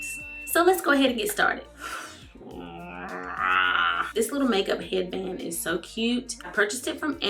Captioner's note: she growls